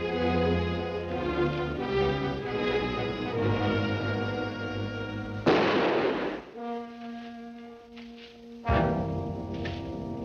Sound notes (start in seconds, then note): 5.4 gun fires; 6.9 dramatic music